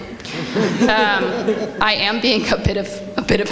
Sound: audience laughs

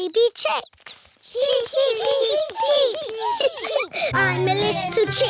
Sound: children imitating chicks

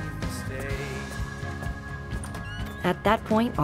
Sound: door opens

